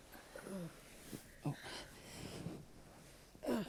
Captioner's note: breathes heavily and slowly